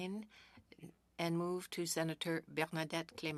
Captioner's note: speaking French